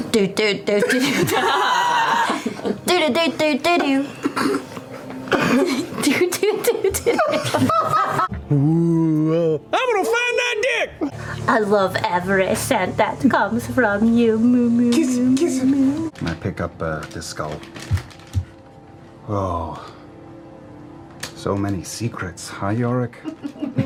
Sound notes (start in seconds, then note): 8.4 eerily ‘oooohs’, then; 14.1 makes kissy noises